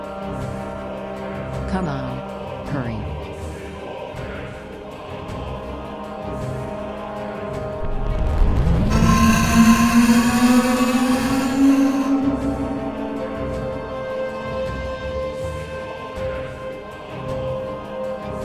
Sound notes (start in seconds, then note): 8.6 tentacle beast blares; 8.6 scorpion beast shrieks